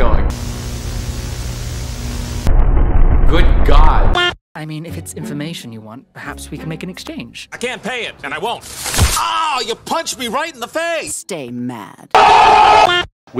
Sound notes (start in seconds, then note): 2.4 muffled cosmic horror noises